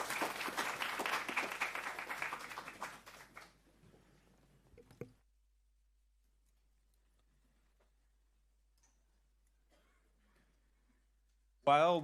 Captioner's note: applause